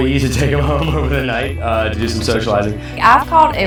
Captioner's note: laughing